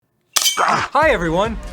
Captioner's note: slate clap